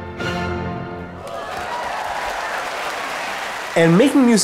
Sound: exciting symphonic music; audience cheering and applauding

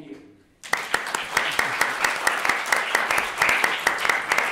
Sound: applause

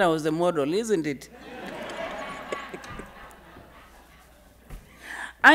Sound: audience laughing

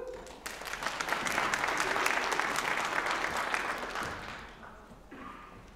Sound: applause

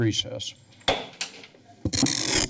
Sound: gavel tap

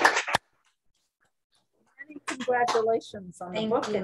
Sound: applause

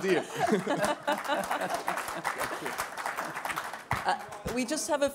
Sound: applause

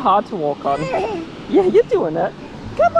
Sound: babbling

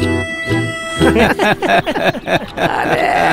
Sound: all Laughs

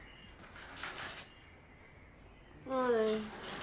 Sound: birds chirp outside

